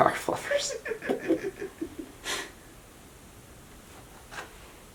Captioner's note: laughing